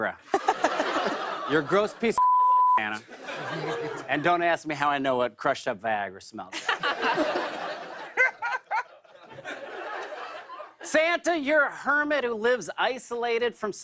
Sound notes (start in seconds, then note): 6.5 laughter